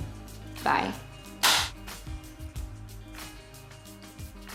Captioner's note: claps